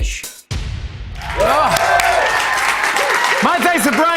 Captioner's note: cheers and applause